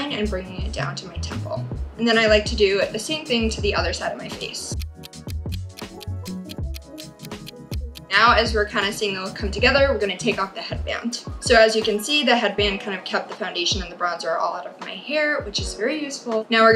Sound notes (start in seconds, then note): 4.7 clock ticking